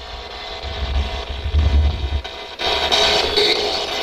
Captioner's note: static buzzing